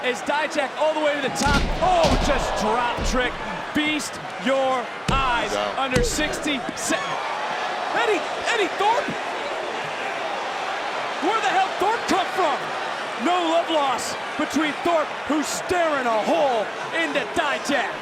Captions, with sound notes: As Dijak all the way to the top, oh, just dropped Trick. Feast Your Eyes. He's out. Under 60... Eddy Thorpe? (crowd cheers) Where the hell did Thorpe come from? No love loss between Thorpe who's staring a hole into Dijak.